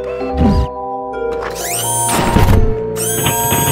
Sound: door Creak, Bang; whirring

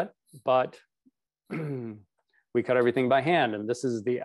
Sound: clears throat

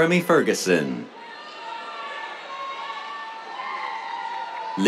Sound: cheers

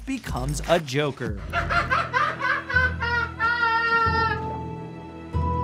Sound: Joker laughing

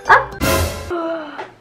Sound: gasp

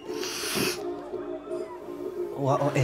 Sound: sniffs

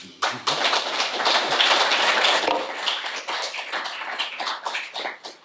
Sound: audience applauding

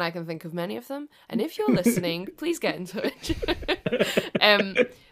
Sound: laughs

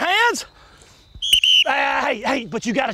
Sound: whistle blows

